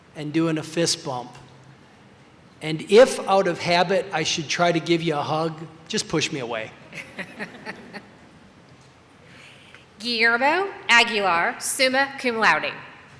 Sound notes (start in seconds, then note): 6.9 laughs